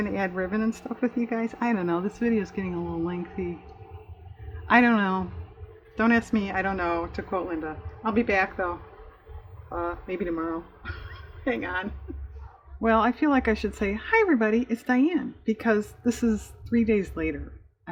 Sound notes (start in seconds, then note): 10.7 laughs; 17.3 laughs